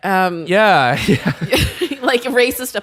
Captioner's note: chuckles